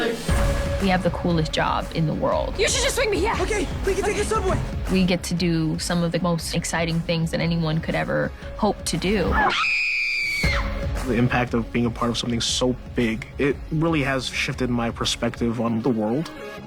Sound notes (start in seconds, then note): 9.3 MJ screams